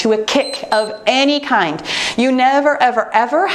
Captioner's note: timer beeps